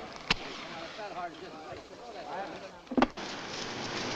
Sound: strikes match

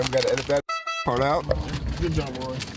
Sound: horn sound

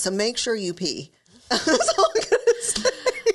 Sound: both laugh

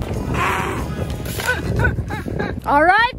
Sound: laughs

